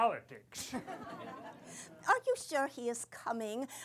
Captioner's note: laughter